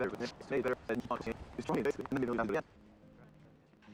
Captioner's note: hard wind blowing